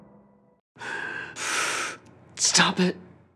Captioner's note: heavy breathing